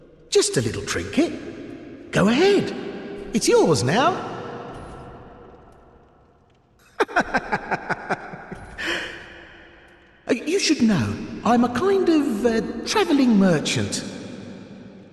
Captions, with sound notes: Just a little trinket. Go ahead, it's yours now *laughing* You should know, I'm a kind of a traveling merchant